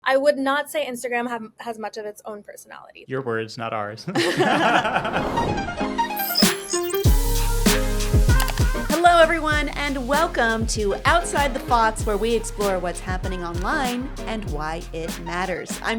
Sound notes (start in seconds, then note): 4.0 hosts laughing; 5.3 upbeat music